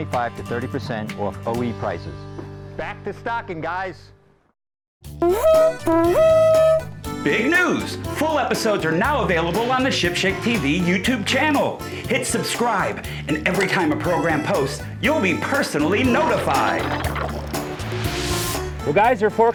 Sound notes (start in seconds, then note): 5.2 horn blows